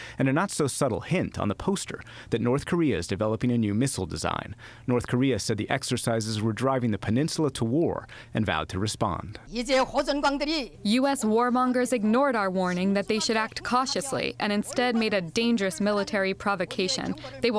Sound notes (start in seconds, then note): 10.2 through translator